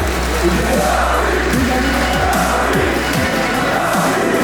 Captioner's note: chanting